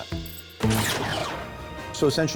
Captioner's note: high-pitched blast